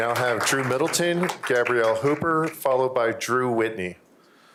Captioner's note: applause